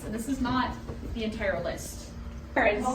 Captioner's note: classroom noises/talk